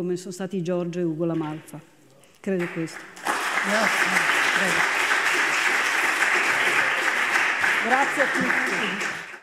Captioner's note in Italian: Applauso